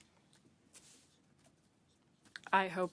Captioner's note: speaking French